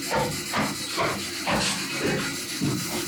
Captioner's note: footsteps